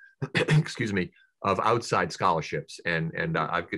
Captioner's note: clearing throat